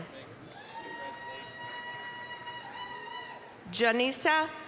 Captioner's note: applause, cheering